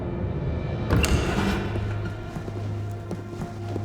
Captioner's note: doors opening; footsteps